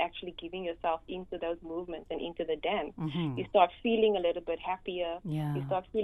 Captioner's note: hm